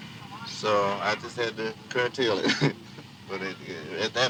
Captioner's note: laughs